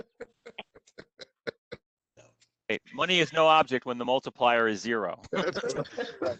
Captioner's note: laughter; laughter